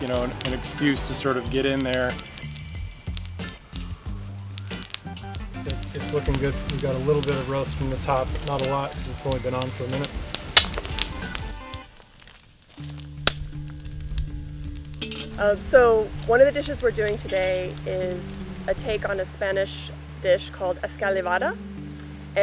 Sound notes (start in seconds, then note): 2.7 buoyant music; 10.7 fire crackling